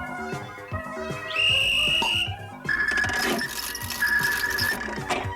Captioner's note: whistle